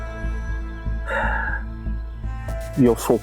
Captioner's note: deep sigh